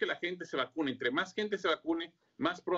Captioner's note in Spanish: habla en ingés